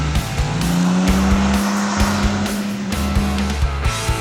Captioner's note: upbeat adventurous music; motorcycle revving over music